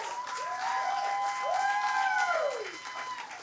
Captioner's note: audience applauds and cheers